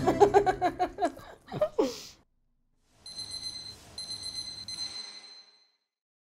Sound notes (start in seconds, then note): 0.0 both laughing; 4.0 bell dinging